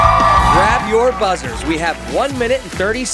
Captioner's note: cheers and applause